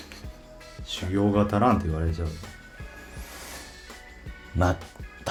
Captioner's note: laughs